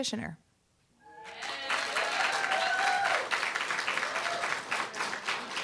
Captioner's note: applause, cheer